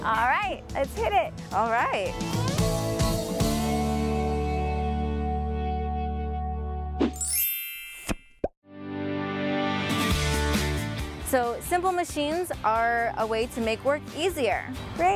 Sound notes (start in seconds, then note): 3.4 upbeat music; 7.2 chime; 8.8 upbeat music